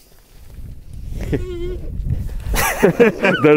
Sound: squeaking

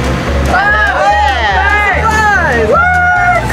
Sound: yelling

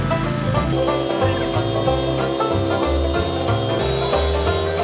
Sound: lawnmower buzzing

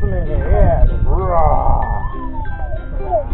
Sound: roarrrring

